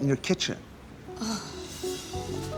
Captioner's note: groans